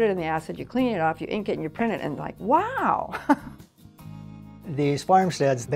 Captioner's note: giggles